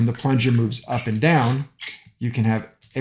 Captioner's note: metal clanking